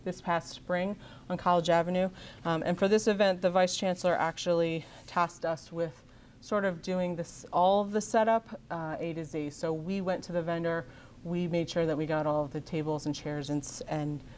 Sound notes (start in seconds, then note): none